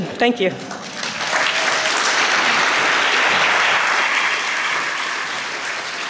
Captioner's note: crowd applauding